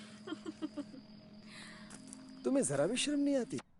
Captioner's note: woman laughing